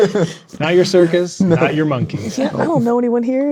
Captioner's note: players laughing